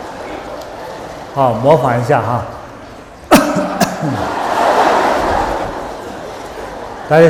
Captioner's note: coughing